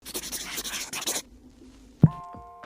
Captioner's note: scribbling noises